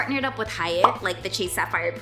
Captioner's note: bubble popping